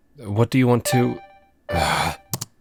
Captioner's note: notification chimes